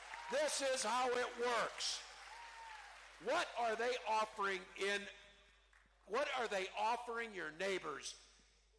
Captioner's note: cheering